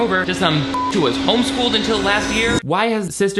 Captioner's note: beep